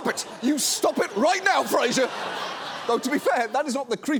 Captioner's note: audience laughs